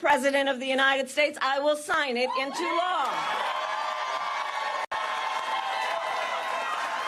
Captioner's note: applause